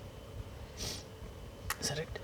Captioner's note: sniff